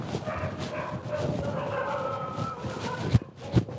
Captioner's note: dogs barking